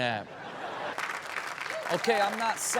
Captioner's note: audience laughs; audience applauds